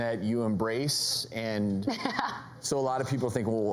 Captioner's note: laughter